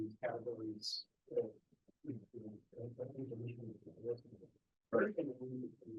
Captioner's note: student speaking faintly off mic